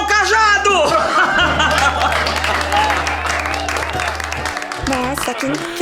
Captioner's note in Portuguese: risadas e palmas